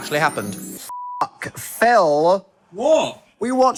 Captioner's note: beep